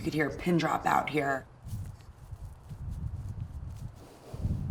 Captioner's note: wind blowing softly